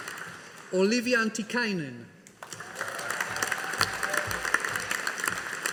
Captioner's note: audience applauding